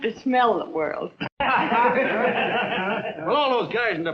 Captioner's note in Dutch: lachend